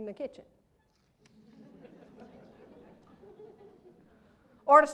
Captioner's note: laughter